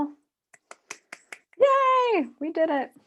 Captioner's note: clapping hands